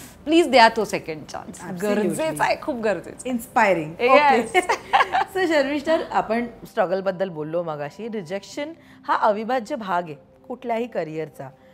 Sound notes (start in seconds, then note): 4.5 Chuckles